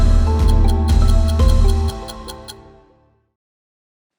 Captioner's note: timer ticking in background